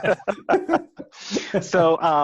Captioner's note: all laugh